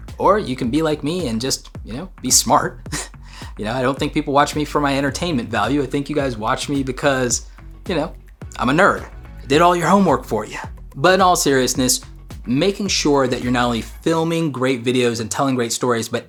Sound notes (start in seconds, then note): 2.8 chuckles